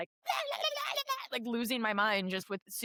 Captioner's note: chaotic Minion sounds